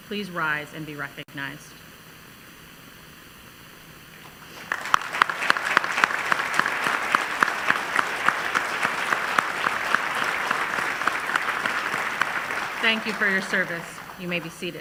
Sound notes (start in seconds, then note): 4.2 applause